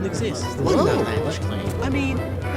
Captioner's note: crowd murmuring